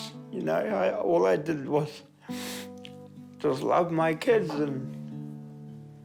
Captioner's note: sniffles